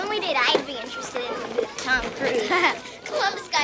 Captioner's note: laughs